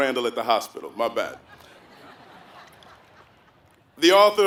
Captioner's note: laugh